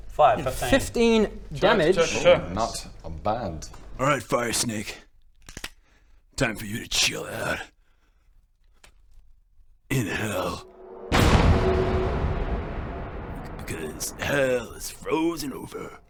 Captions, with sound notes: 5 = 15 15 damage Chur chur chur Not...bad... Alright fire snake *cocks pistol* time for you to chill out in hell *BANG!* because hell is frozen over